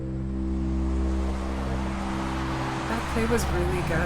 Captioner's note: traffic whooshes